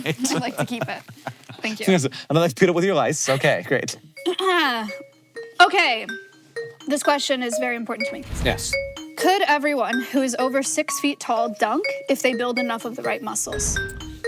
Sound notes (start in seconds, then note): 4.7 Maya clears throat; 4.7 bright music